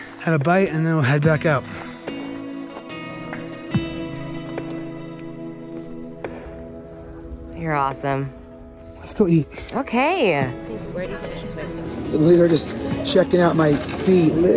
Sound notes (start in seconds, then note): 6.9 birds chirping